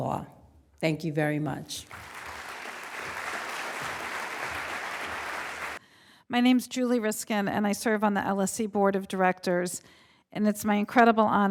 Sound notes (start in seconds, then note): 5.1 applause